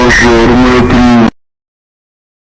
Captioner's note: alarm